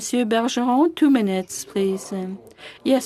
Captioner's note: speaking French